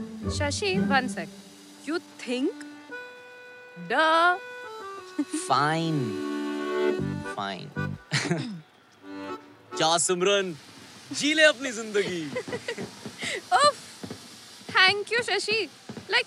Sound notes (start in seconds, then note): 5.5 Chuckles; 12.0 Laughs